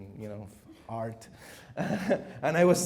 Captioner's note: chuckles